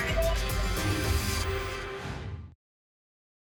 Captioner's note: whoosh